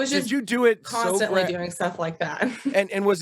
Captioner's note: chuckles